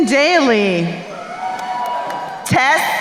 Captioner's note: crowd cheering